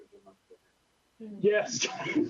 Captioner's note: laughter